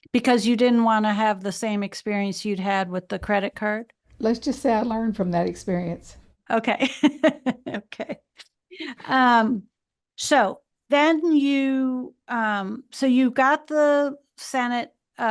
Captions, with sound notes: - Because you didn't wanna have the same experience you'd had with the credit card? - Let's just say I learned from that experience. - Okay (laughs). So then you got the Senate fellowship,